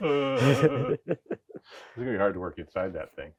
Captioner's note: speaker laughing